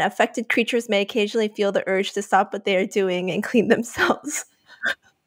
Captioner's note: giggles